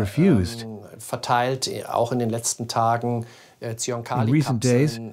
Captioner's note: German spoken audio